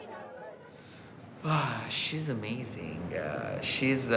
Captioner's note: sighs